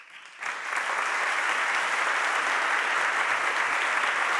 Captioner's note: audience applauding